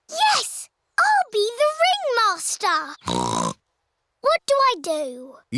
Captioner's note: snorts